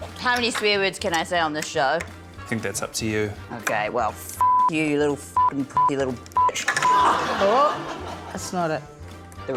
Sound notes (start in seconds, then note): 6.8 laughter